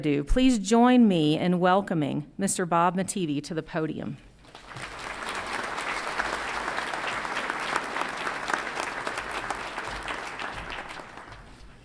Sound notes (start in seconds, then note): 4.4 audience applauds